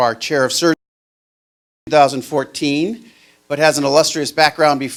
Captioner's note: microphone silence